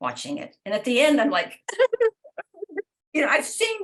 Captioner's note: pretends to sob